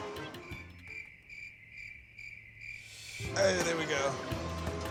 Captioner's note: crickets chirping